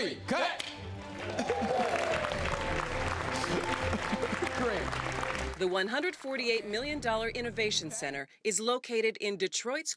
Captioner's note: applause